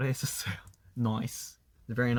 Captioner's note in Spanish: acento australiano